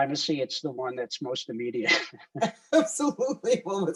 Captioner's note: laughs